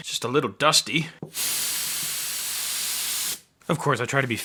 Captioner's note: spray hissing